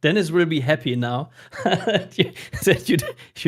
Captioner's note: laughing